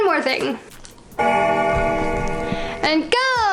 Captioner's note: bell gongs